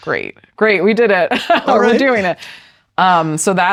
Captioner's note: laughs